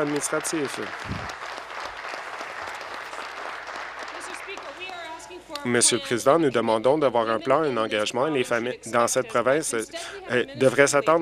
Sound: applause

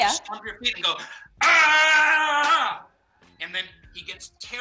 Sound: yells

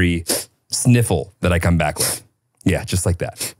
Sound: sniffs

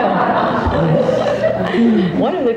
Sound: audience laughing

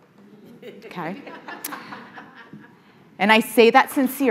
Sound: audience laughing

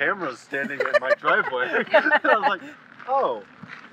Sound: laughing

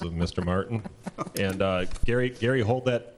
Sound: laughing

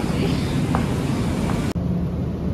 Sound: hahahahahaha

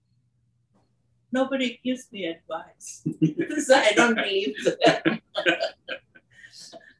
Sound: laugh

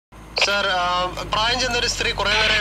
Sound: radio Chatter

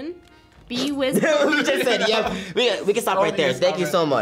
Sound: laughs

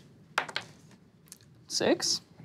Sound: dice clatters

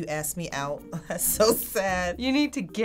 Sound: laughing

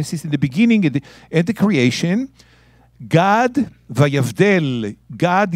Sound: speaking in Hebrew

